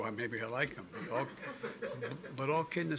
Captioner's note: laughter